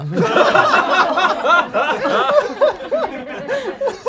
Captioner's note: group laughs